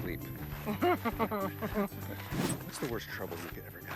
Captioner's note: Connie laughs